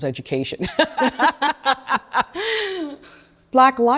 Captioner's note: laughs